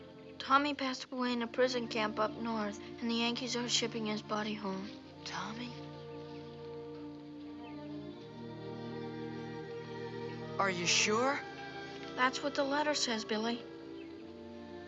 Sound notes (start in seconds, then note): 4.8 whispers; 10.0 in normal voice